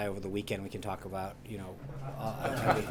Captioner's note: laughter